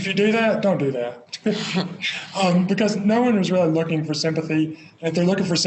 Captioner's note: both Laugh